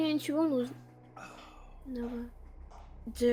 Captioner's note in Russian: звуки каблуков